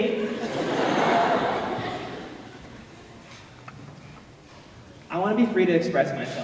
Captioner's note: laughter